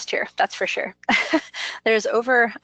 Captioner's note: laughs